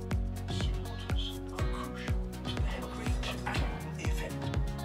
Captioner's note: TV playing in background